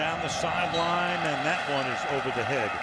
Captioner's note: whistle blows